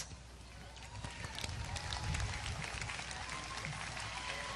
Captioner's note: audience applause